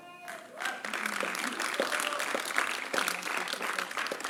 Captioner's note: applause